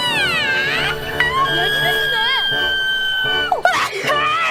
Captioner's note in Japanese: くしゃみ; 咆哮; くしゃみ